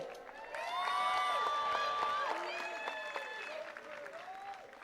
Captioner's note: attendees cheering and clapping